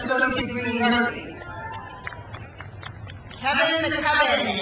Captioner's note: crowd cheers